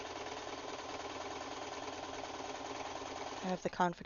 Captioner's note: sewing machine